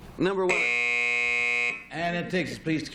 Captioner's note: buzz